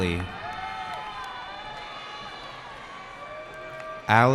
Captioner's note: cheering